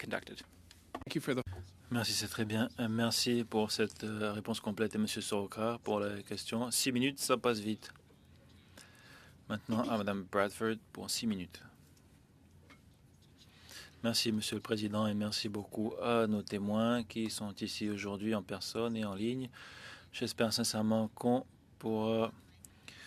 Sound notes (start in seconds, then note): 8.0 speaking French